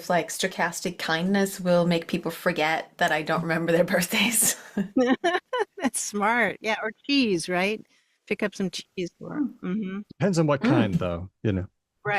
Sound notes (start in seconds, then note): 4.9 laughs